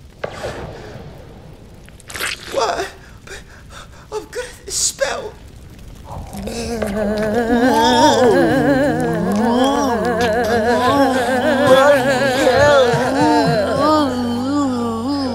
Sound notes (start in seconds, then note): 0.1 pew; 1.6 splat